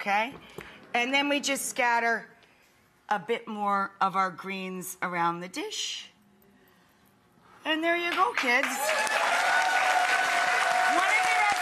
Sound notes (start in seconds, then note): 8.4 audience applauding; 8.6 audience cheering